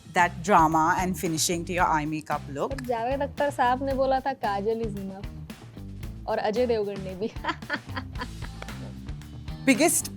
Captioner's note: laughter